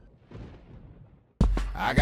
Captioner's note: thunder